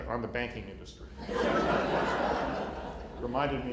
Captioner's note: laughter